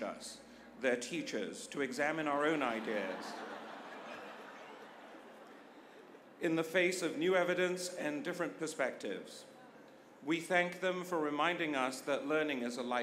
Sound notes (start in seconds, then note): 5.3 laughter